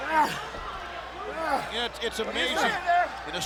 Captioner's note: fighting sounds